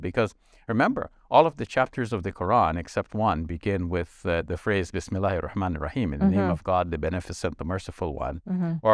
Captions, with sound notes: because, remember, all of the chapters of the Quran, except one, begin with the phrase (speaks in foreign language). In the name of God, the benefits of the merciful one.